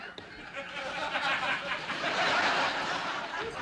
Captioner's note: laughter